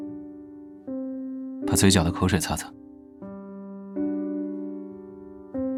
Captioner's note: gentle tone